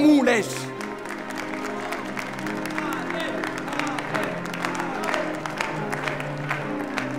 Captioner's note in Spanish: Vítores, aplausos